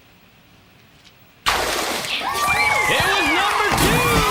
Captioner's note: cheering